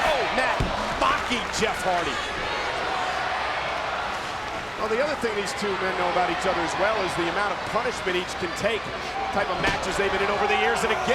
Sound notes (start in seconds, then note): 2.6 spectators cheering